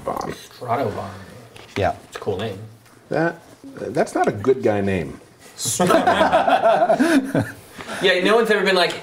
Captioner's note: laughter